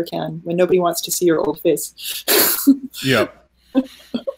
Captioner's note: laughing